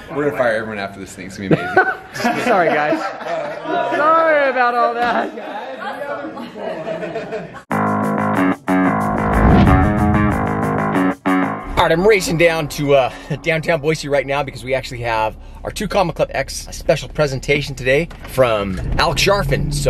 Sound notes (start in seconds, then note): 1.6 laughs; 8.8 upbeat music